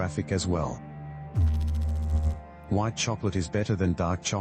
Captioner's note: electrical noise